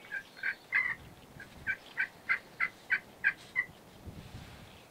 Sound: birds chirping; turkey yelping

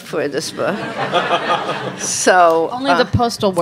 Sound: audience laughs

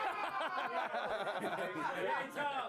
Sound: laughter

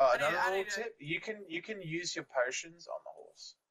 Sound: none

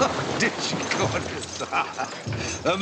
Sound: laughs

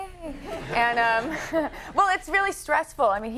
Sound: crowd laughing

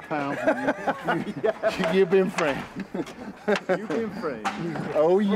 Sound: laughter

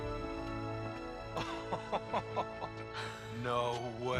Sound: laughing

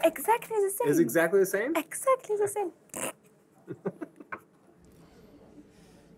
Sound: laughs

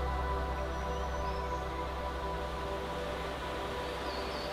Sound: birds chirping

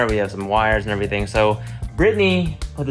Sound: none

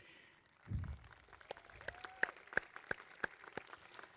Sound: crowd clapping

